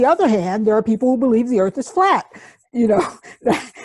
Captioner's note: chuckles